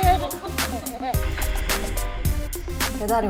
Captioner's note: crew can't hold back their laughter from cuteness